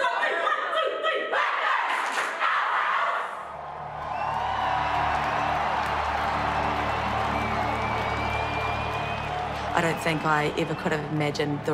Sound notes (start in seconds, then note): 2.0 claps twice; 3.5 crowd cheering; 4.4 gentle music continues